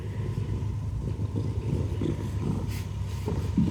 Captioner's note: loud purring